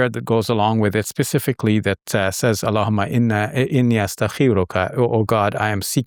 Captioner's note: speaks foreign language